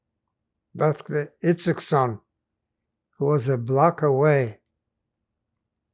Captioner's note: non-english